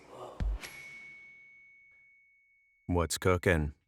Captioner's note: bell dings